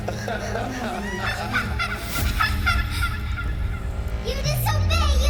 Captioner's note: Young Andre laughing